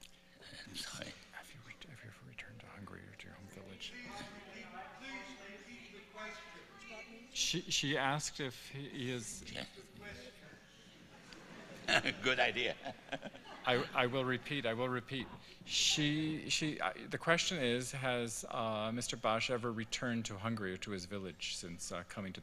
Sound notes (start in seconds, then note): 9.2 laughter